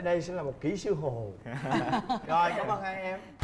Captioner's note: laughing